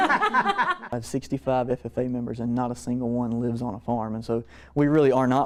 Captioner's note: laughter